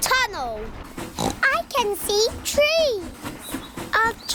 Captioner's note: oinks